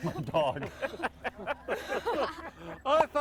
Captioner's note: everyone laughing